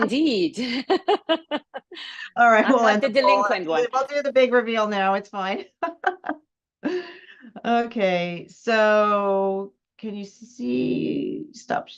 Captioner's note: laughs